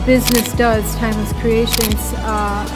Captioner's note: camera clicking